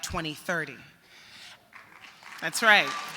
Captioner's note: applause